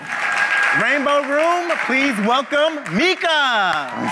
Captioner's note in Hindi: वाहवाही